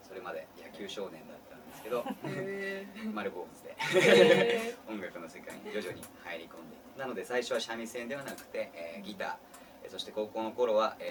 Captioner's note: laugh